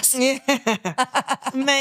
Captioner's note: laughing